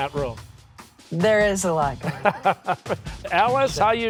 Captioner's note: laughs